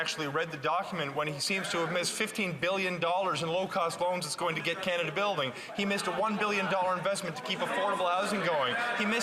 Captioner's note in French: voix de l'interprète